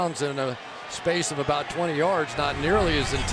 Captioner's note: crowd cheering